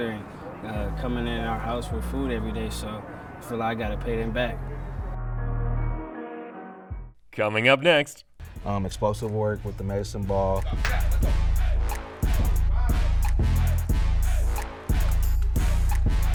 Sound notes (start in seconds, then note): 9.0 voiceover; 11.3 upbeat hip-hop music